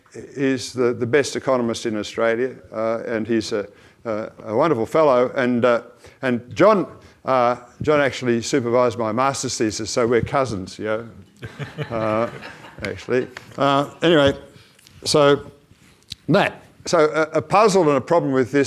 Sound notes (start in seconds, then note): 11.4 audience laughs